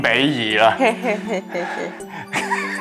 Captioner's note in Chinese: 奸笑